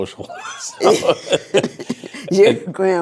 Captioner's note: laughing